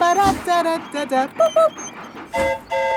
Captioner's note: train whistle toots; mimics train whistle